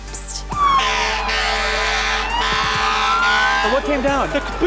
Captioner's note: siren blares, horn honks